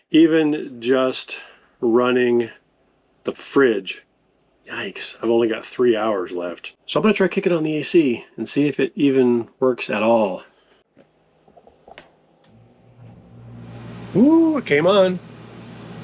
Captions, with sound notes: even just running the fridge, yikes, I've only got three hours left. So I'm gonna try kicking on the AC and see if it even works at all. (air whirs) Ooh, it came on.